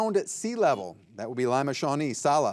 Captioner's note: buzzer buzzing